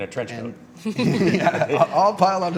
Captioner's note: laughing